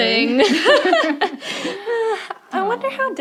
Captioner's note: ladies laughing